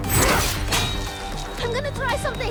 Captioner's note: spikes clack